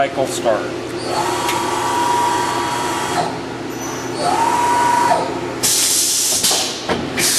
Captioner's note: machine whirs and hisses